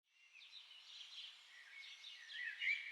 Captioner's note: birds singing